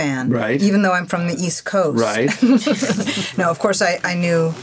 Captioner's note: laughs